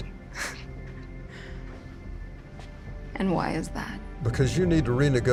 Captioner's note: scoffs